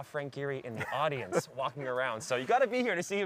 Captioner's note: laughter